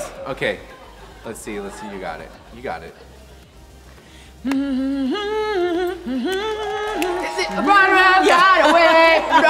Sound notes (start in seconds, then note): 5.7 humming an upbeat tune